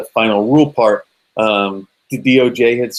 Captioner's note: none